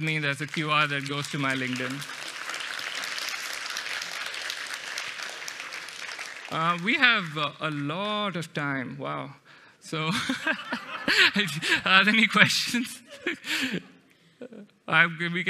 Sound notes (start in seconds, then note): 2.6 applause